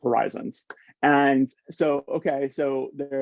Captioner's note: hands clapping